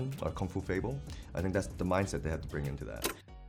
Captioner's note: none